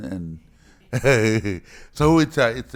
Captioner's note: chuckles